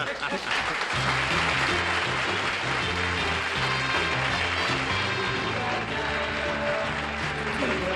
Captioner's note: applause